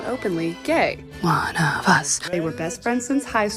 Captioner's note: chanting